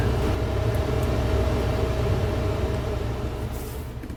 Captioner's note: car engine revving